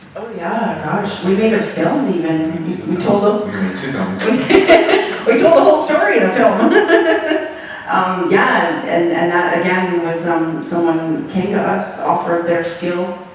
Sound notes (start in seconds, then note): 4.2 laughing; 7.3 laughing